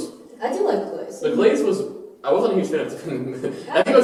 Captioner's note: laughs